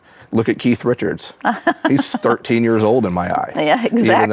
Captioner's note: laughs